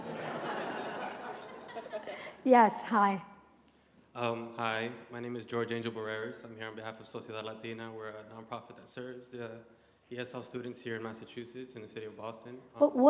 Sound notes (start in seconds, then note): 7.4 non-english speech